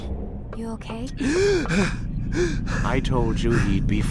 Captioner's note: gasps and heavy breathing!